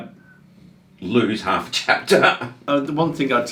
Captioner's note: laughs